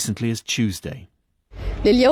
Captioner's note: speaking Arabic